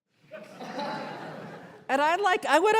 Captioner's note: audience laughter